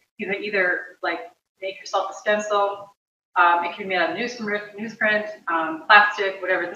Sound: none

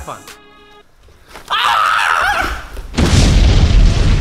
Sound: screams

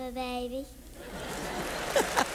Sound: laughter; applause

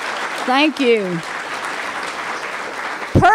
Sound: applause

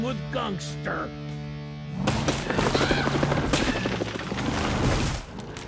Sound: wood splitting

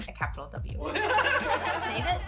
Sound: canned laughter

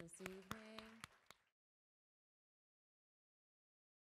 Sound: audience applauding

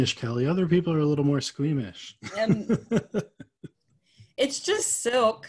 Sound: laughing

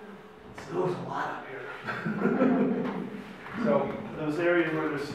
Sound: laughs

